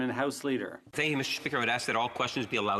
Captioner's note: speaking French